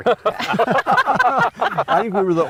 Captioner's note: laughing